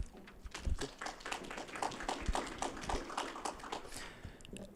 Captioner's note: applause